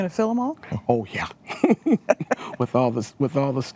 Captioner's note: laughs